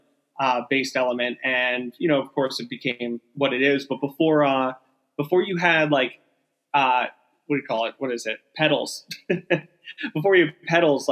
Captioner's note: laughing